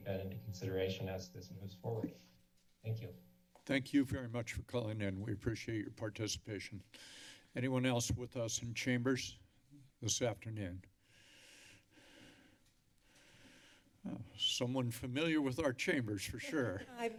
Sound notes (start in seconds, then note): 6.9 inhales deeply; 10.9 breathing heavily